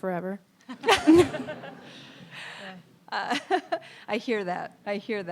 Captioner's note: audience and panelists laughing